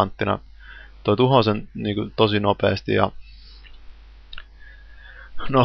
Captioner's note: sigh